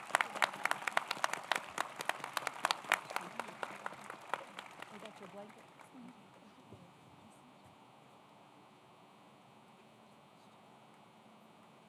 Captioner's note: applause